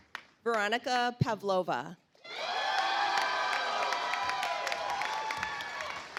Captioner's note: audience applauds